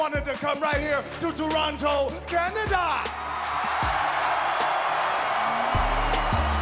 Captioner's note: crowd cheering